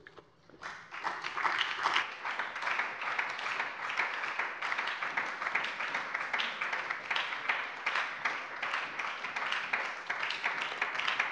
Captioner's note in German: Beifall bei der FDP und der SPD